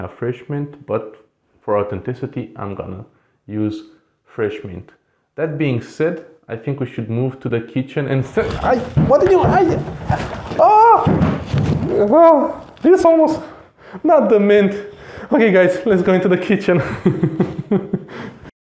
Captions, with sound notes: but for authenticity I'm gonna use fresh mint That being said I think we should move to the kitchen and... *Screams of Despair* This almost..., Not the mint!!! Ok guys, let's go into the kitchen